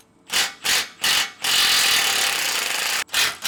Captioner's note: drill whirring